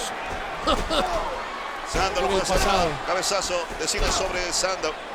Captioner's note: laugh